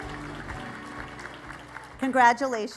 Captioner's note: applause